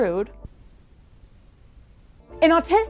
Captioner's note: silence